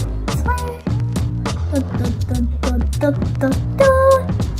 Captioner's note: child playing